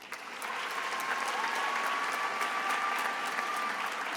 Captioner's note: attendees applauding